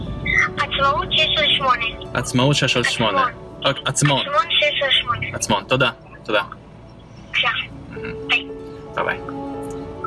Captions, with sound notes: - (boy on phone) Atzmaut 6/8. - Atzmaut 6/8. - (boy on phone) Atzmon 6/8. - Atzmon 6/8. Thank you. - (boy on phone) Welcome. Bye. - Bye-bye.